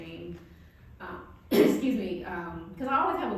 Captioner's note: coughing